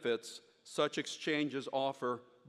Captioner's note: none